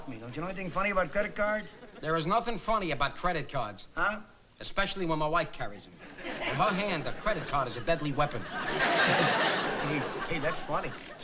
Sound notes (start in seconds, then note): 8.9 chuckling